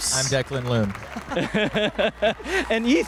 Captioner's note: applause and cheers